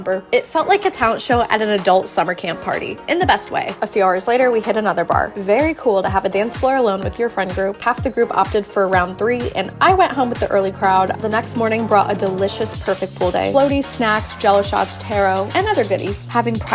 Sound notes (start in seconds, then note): none